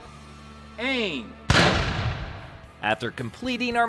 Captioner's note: gun fires